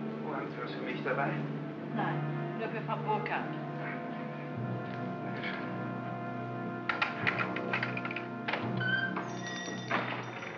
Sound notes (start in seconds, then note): 0.2 speaking in German; 6.8 key rattles in lock; 8.4 door opens; 10.4 ominous music